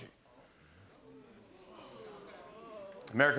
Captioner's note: audience groaning